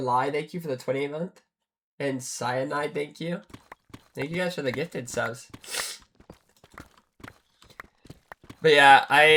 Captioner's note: snorts